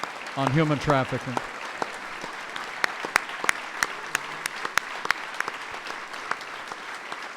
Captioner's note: applause